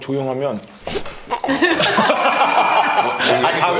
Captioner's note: snores